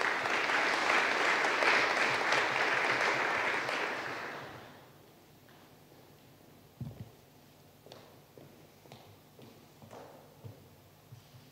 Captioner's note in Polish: oklaski